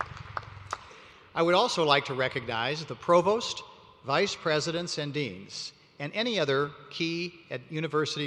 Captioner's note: applause